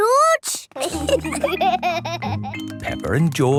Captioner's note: laughter